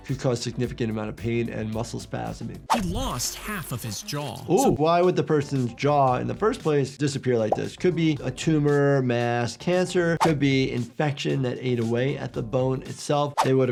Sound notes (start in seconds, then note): 7.5 bubble pops